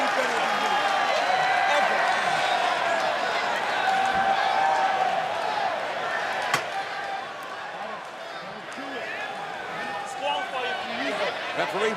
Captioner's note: crowd chatter